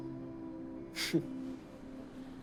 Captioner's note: chuckles